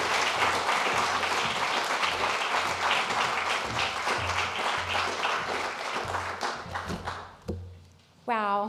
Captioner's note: applause